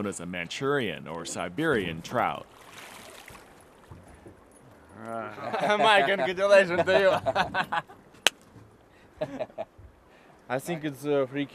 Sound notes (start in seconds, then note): 7.2 speaking russian; 9.2 laughing